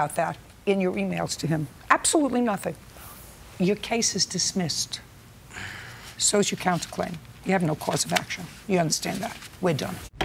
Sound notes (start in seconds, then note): 5.5 sighs